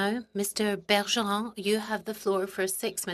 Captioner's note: speaking French